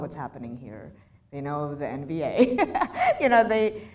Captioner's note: laughs